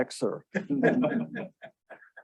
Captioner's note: audience laughing